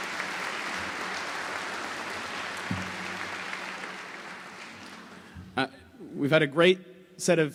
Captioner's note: applause